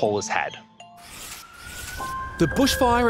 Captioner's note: siren wailing